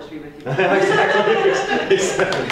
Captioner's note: applause